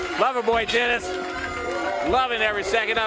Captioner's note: bell ringing